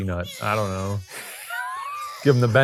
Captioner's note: baby crying